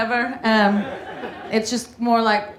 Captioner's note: audience laughing